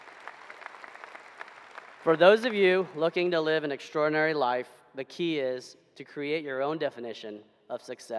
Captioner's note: applause